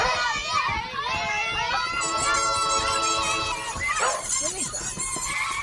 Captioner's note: loud kids and dog